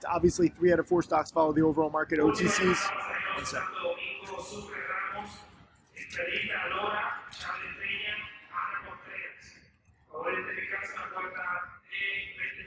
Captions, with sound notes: obviously three out of four stocks follow the overall market OTC's... one second. (airport announcements in foreign language)